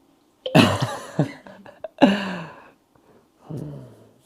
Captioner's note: again, laughter comes